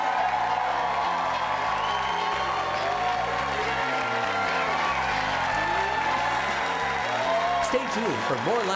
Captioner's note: applause